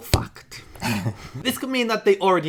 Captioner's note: both chuckle